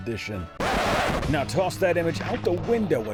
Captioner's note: record scratches